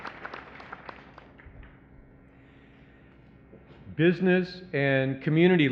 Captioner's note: applause